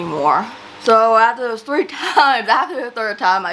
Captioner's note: laughs